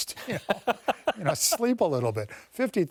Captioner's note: laughter